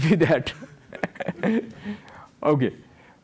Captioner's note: laughs